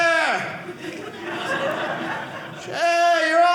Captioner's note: audience laughing